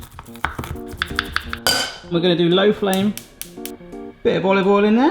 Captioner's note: garlic crunching; metallic clanging